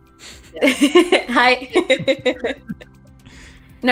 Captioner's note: laughs